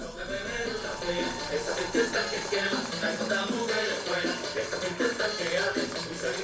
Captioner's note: performers singing in foreign language